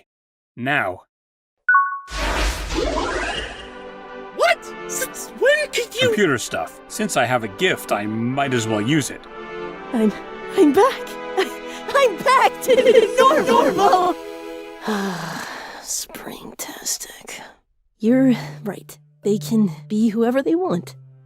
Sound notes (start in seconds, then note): 1.4 ding!; 14.8 sigh